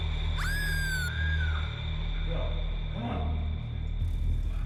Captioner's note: Ellie screaming